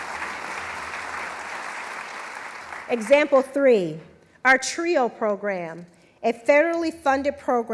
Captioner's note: applause